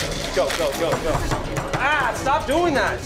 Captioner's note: tapping on bar